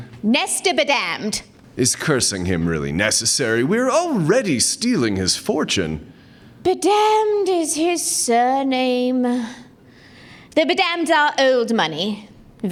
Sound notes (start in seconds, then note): none